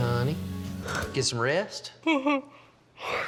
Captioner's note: yawning